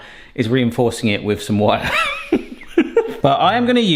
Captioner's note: laughs